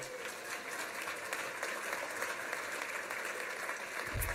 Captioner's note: applause